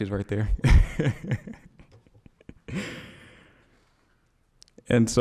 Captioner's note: laughing